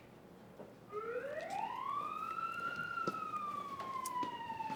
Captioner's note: sirens wailing